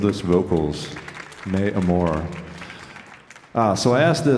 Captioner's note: audience applauding